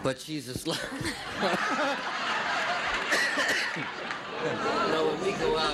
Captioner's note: laughing